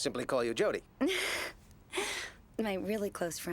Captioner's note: suppressed giggle